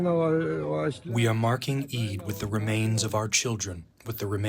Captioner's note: through translator